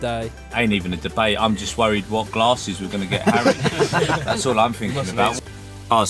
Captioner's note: laughter